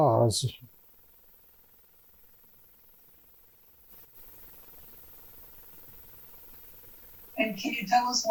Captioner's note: pauses 6 seconds